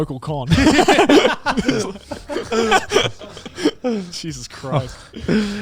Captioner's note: laughs